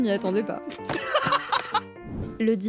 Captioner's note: laughing